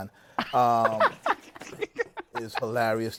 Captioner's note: laughter